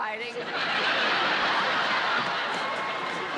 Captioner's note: laughter